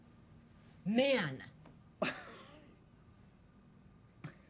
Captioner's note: Mitch laughs